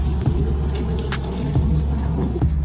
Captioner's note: bus driving away